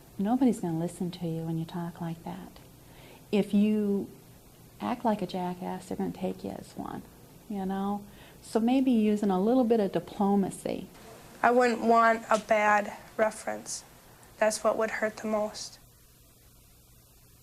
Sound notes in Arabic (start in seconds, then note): none